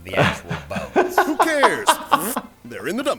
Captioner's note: blows raspberry